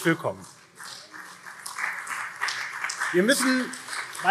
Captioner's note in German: Beifall CDU und SPD